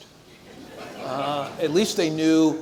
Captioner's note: audience chuckles